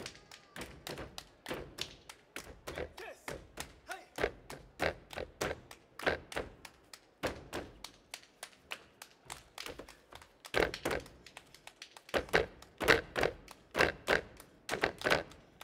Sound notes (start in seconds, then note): 2.3 hands clapping and feet stomping; 8.5 hands clapping; 10.6 hands clapping and feet stomping